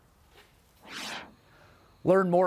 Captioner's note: whoosh sound